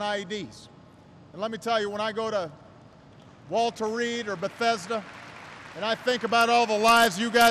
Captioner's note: applause